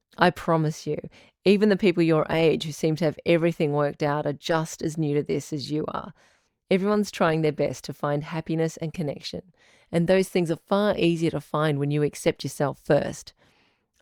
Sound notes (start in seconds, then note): none